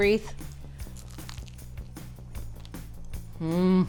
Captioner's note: cookie crunches